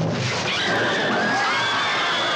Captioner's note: audience screaming; Melina screams